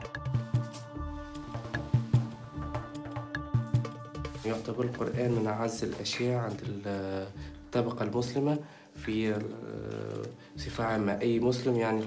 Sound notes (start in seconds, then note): 0.1 gentle instrumental music; 4.7 speaking in a foreign language